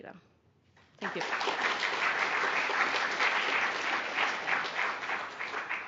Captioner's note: applause